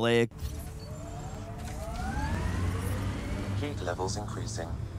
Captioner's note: vehicle swooshing